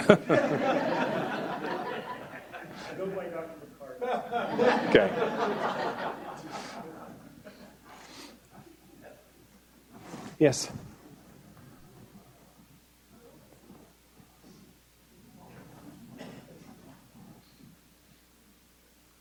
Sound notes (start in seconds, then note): 0.0 audience laughing